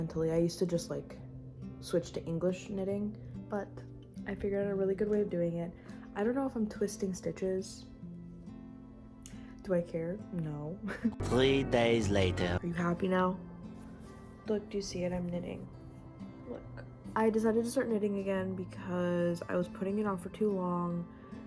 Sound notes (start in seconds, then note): 10.5 laugh